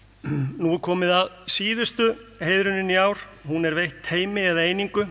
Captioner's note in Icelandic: ræskir sig